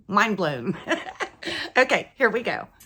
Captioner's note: laughing